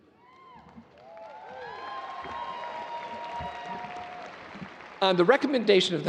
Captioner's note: audience cheering and applauding